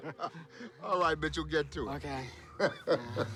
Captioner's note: laughs